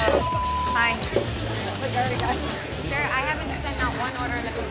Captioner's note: beep